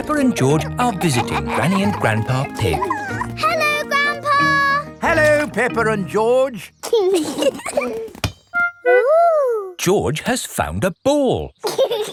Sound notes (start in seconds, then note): 7.2 both giggling